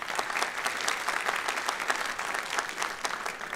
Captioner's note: applause